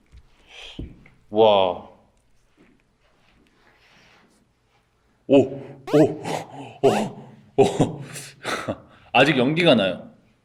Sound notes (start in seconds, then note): 7.2 shudder